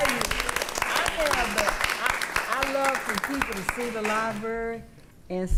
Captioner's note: attendees applauding